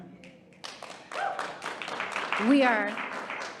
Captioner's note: audience applauding